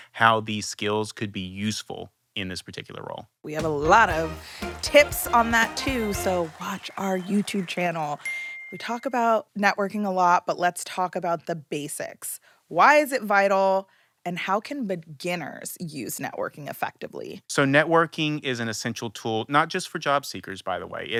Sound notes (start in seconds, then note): 3.5 upbeat music; 8.2 bell chiming